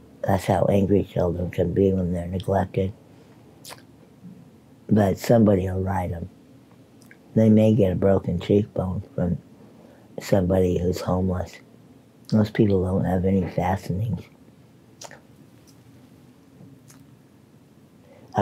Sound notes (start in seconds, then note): 3.6 lips smacking; 15.0 lips smacking